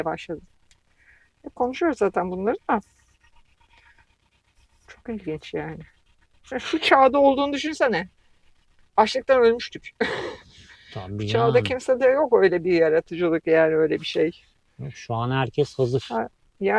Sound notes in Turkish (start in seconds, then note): 10.0 kahkaha